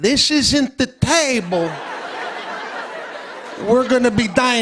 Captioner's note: laughter